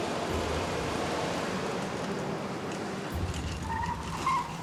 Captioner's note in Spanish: ruidos de un camión llegando